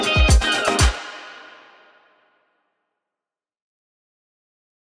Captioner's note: music stops